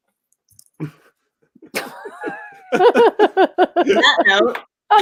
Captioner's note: laugh